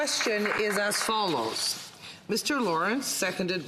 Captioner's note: some Applause